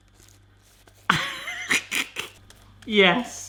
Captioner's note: laughing